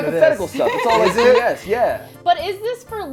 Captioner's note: overlapping chatter